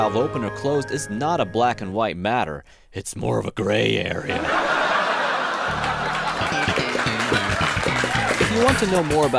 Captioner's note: laugh track